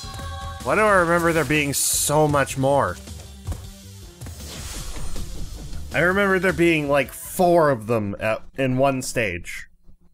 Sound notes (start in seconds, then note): none